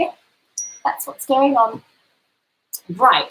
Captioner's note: cellphone chimes